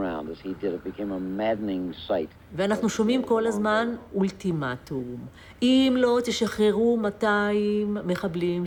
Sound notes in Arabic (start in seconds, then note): 2.6 الصوت المنطوق باللغة العبرية